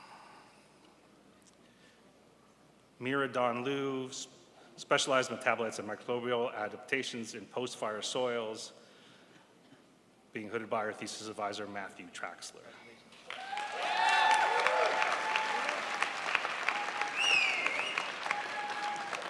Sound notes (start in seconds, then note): 13.2 crowd applauds